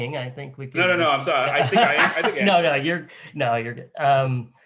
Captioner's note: laughs